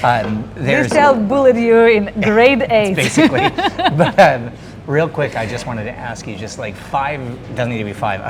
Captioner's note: laughing